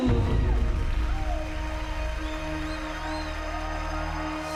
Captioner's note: cheering and applause